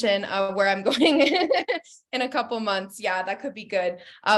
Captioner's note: laughs